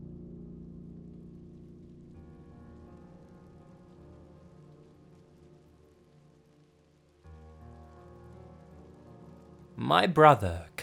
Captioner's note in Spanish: Estática suave, el sonido del piano continúa